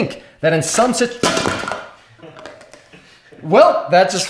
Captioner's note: clangs